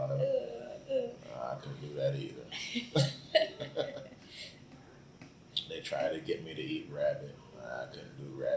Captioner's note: both laugh